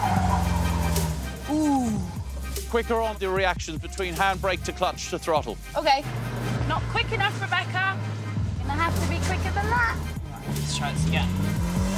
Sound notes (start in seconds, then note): 1.4 gasps